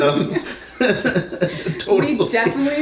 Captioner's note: laughs